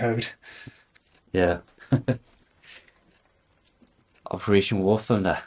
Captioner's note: chuckles